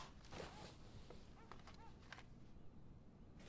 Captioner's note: dog barking outside